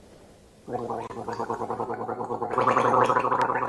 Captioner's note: gargling